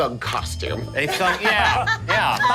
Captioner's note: laughing